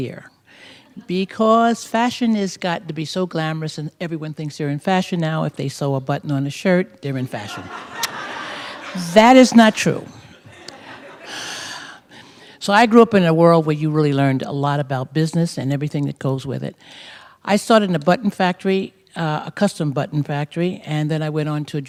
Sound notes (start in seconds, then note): 7.4 laughter; 11.2 sigh